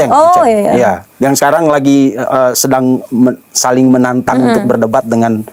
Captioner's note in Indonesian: berdehem